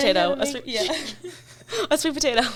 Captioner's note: laughs